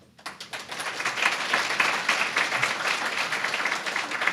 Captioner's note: applause